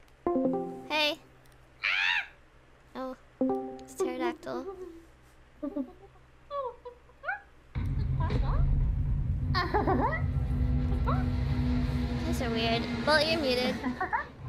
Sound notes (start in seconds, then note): 1.8 screech that sounds like a pterodactyl; 6.4 making owl and chicken noises